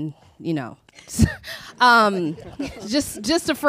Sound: chuckles

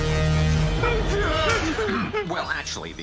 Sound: whimpers

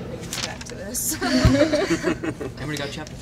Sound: laughter

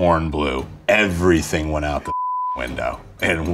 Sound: beeps

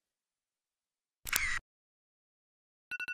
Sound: camera shot; phone ringing

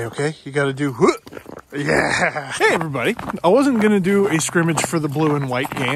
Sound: snow crunching throughout audio

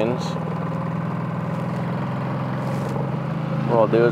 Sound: boat engine accelerates growling

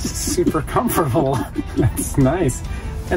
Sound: laughing

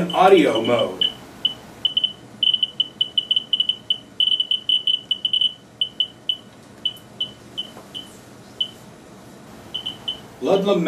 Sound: beeps

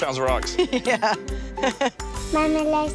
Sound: laughs

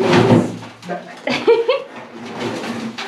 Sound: laughing

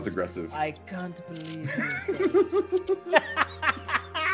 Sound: laugh

